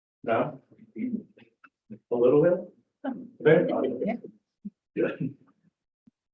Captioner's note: laughs